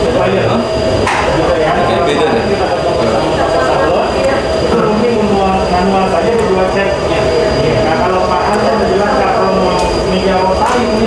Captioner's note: distant chattering